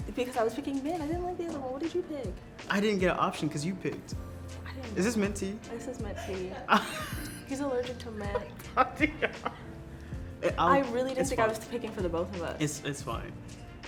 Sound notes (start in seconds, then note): 7.9 laughing